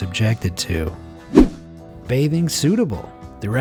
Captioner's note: image whooshing